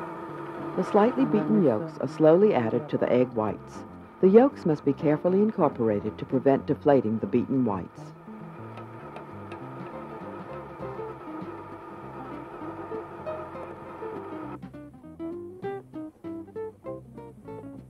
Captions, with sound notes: - [Voiceover] The slightly beaten yolks are slowly added to the egg whites. The yolks must be carefully incorporated to prevent deflating the beaten whites. (calm music)